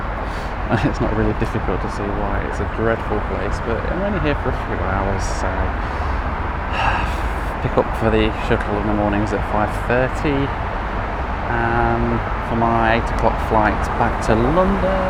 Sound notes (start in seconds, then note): 0.7 chuckles; 6.6 sighs